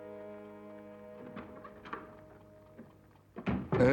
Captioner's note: door shuts